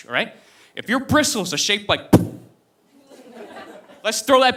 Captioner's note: blows on microphone